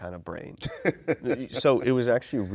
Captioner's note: chuckles